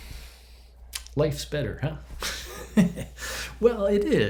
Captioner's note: chuckles